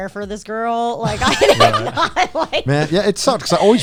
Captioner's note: guys laughing